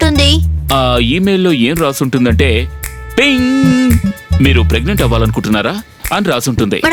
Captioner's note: ping